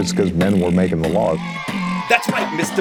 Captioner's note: comic cheering